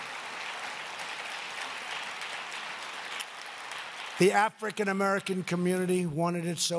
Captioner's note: applause